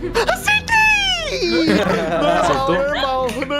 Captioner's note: laughing